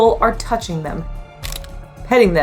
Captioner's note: background music; camera click sound